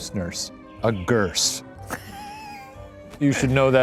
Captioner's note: laughing